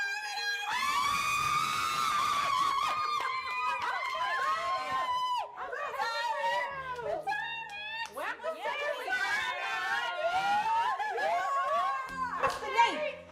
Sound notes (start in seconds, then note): 0.8 all cheering; 11.8 cheering